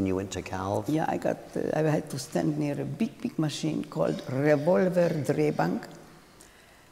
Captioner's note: speaking in German